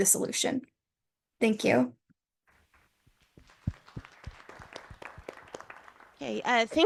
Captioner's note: applause from the audience